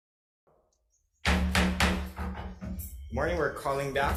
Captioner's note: gavel thumping